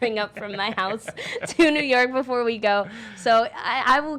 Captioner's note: laughing